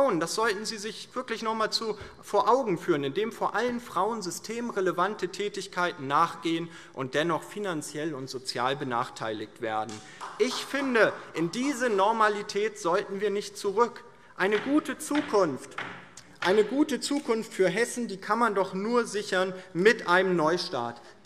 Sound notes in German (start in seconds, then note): 9.8 Beifall; 13.9 Beifall